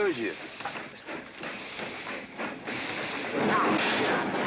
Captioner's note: train chugging past